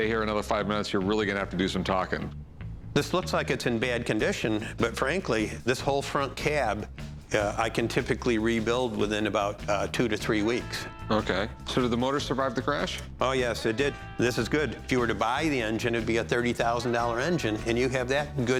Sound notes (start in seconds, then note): none